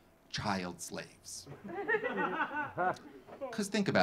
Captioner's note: audience laughing